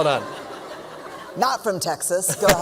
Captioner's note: laughter